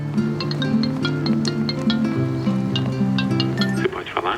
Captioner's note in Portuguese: Celular tocando